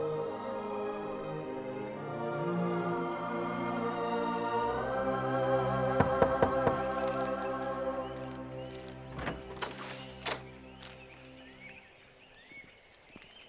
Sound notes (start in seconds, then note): 6.0 Josh knocks on door